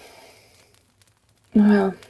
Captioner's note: speaker takes a deep breath